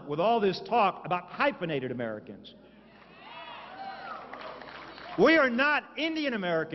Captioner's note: applause